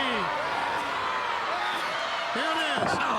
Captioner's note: crowd cheering